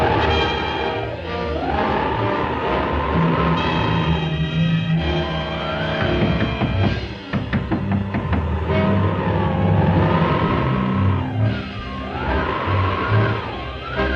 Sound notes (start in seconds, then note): 0.2 dramatic orchestral music continues; 7.2 hand knocking on door; 9.5 dramatic orchestral music continues